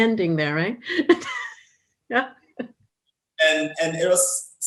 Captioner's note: laughter